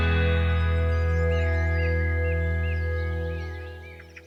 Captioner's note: birds singing